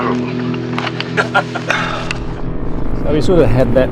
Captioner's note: laughter